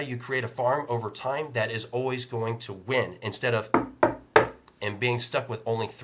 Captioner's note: knock, knock, knock